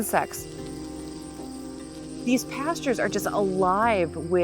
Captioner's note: bee buzzing